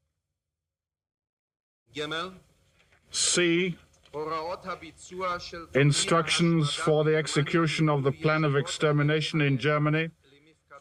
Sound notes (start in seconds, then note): 2.0 speaking German continues